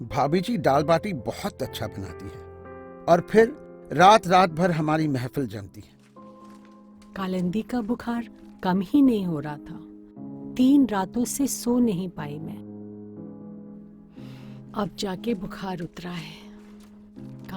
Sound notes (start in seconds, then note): 14.1 sharply inhales